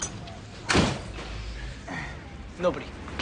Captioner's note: door slamming